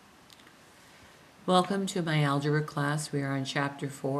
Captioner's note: voiceover